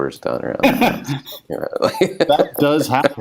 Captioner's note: laughs